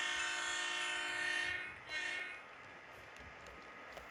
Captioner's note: horn is free, but toots one more time to double check